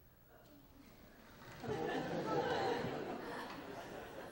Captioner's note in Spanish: clase se ríe